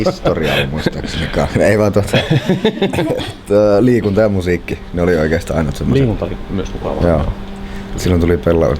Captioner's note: laughs